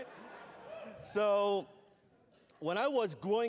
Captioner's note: laughter